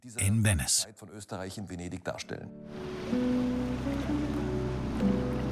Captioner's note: speaks in foreign language